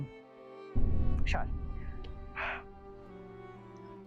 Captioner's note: gasps